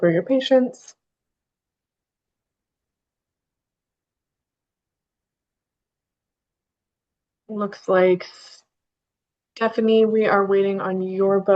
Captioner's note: pause